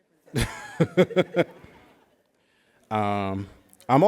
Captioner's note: chuckles